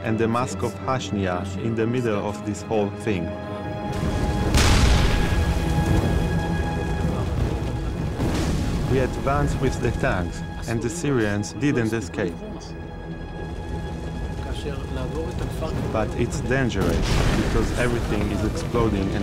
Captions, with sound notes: and the mosque of Hushniya in the middle of this whole thing. (explosions booming) (dramatic music) We advance with the tanks and the Syrians didn't escape. But it's dangerous because everything is exploding